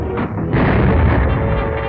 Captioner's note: boom